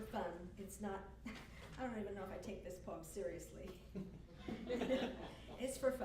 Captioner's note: laughs